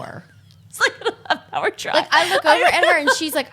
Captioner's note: laughing